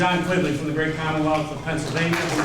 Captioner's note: applause